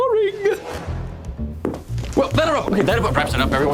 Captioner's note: footsteps